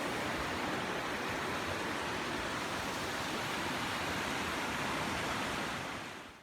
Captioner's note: sound of creek